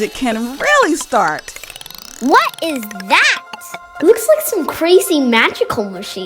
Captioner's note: shaking, tinkling, ringing